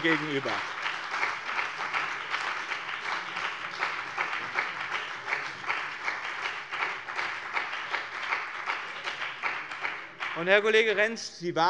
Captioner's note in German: Beifall bei dem BÜNDNIS 90/DIE GRÜNEN und der CDU